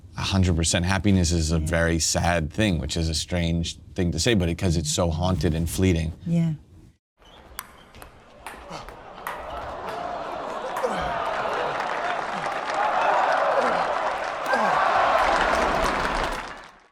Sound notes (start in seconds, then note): 9.3 spectators cheering; 12.0 spectators applauding